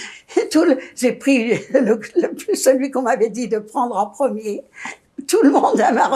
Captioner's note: laughing